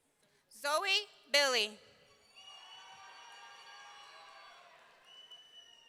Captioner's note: audience cheering